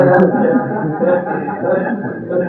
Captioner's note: laughter